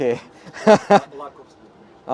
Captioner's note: laughs